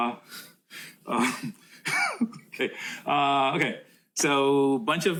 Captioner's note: laughs